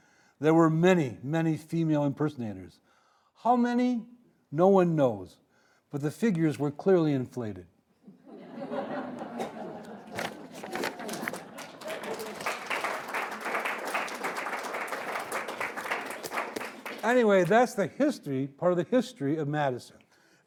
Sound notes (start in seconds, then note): 8.2 audience laughing; 12.0 audience applauding